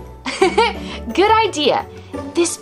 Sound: chuckles

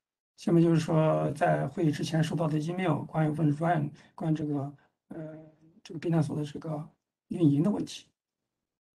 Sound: speaks in Mandarin

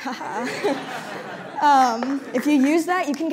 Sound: laughter

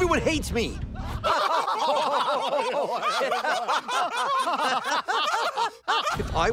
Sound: laughing

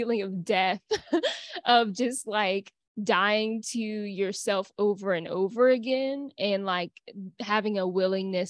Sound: laughter

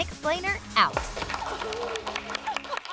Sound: applause

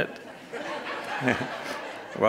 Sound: audience laughs

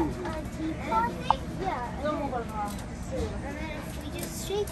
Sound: crowd chattering

